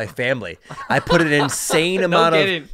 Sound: chuckles

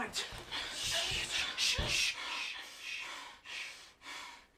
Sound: shushing

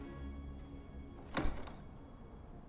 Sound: door opens

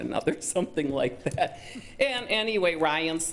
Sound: chuckles

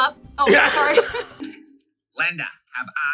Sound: laughs

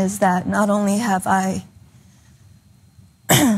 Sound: cough

